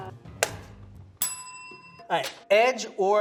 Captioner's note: bell dings